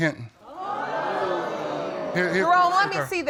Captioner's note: audience exclaiming